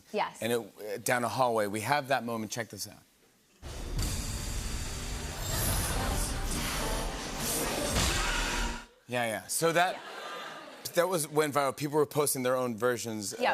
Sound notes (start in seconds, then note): 10.1 audience murmurs